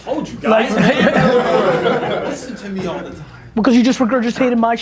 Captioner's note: group laughter